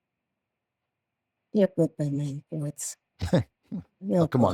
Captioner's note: chuckles